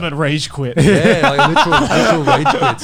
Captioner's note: laughs